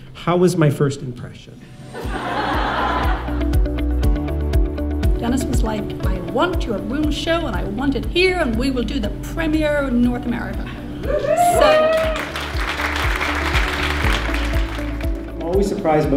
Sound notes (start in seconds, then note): 1.9 audience laughing; 11.1 audience cheering; 11.4 audience clapping